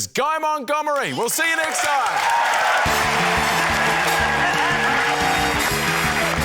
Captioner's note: cheering, applause